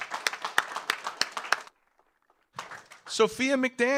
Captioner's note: audience applauds